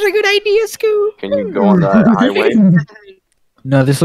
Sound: horse laugh

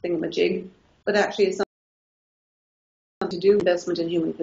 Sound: audio drops out

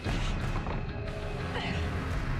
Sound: grunt

